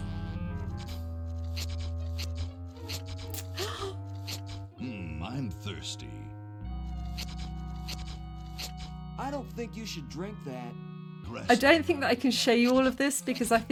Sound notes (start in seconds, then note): 1.0 gasp; 1.0 sucker squeltches